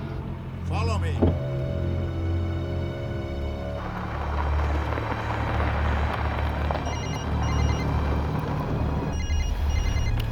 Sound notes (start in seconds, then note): 3.6 ominous orchestral music; 6.8 phone ringing